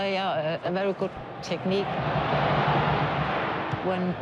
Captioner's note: crowd roars